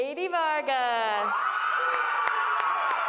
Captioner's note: applause